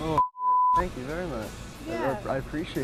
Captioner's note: beep